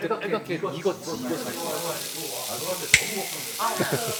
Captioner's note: sizzling